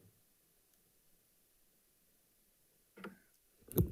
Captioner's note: none